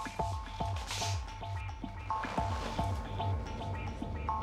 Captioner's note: sniff